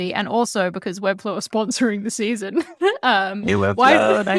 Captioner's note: laughs